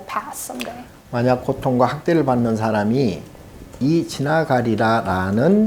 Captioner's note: speaking Korean